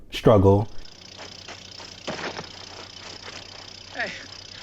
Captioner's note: motor running